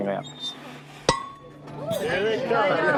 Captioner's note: clang